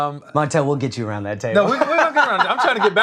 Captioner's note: laughs